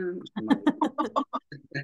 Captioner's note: laughing